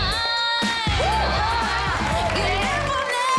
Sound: cheering

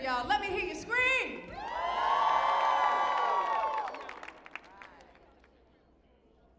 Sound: audience cheering

